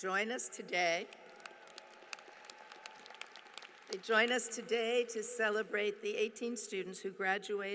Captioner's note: applause